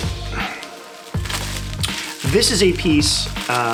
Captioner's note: plastic rustling